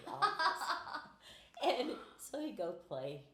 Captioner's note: laughing